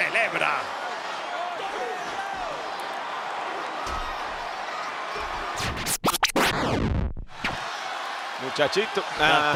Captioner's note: applause